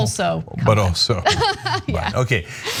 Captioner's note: laugh